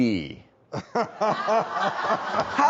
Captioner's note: everybody laughs